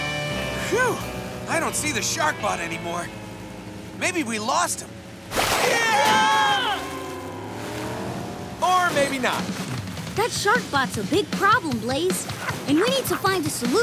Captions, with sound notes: Phew, I don't see the shark bot anymore. Maybe we lost him. [screaming] Or maybe not. That shark bot's a big problem, Blaze, and we need to find a solution.